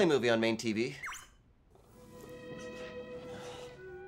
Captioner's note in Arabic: صفير مبتهج